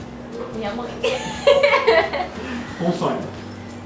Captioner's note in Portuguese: Risadas